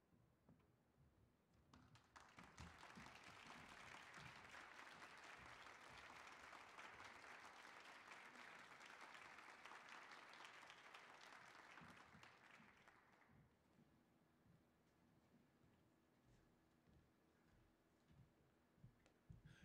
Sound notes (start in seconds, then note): 2.9 audience applauding